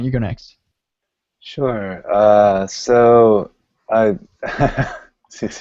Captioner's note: laughing